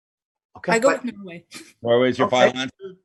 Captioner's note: laughs